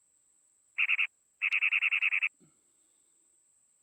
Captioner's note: bird chirping